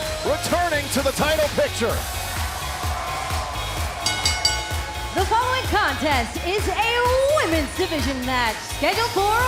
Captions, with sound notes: QUEST RETURNING TO THE TITLE PICTURE. [CHEERS AND APPLAUSE] [BELL RINGING] >> THE FOLLOWING CONTEST IS A WOMEN'S DIVISION MATCH SCHEDULED